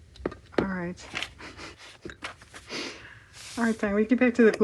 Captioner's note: laughs